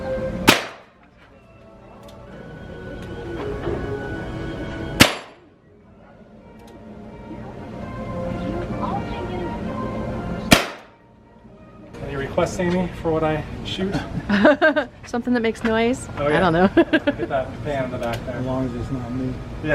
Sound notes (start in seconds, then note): 0.4 gun fire; 5.0 gun fire; 10.5 gun fire; 16.8 laughter